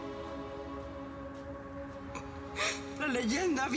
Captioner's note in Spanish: sollozos